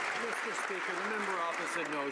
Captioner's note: some Applause